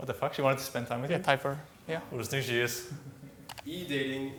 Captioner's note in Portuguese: sussurros; risos